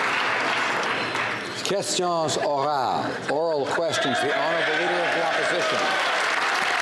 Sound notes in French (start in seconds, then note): 3.9 Applause